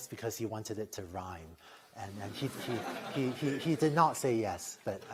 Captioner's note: laughter